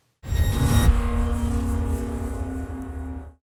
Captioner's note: electronic swoosh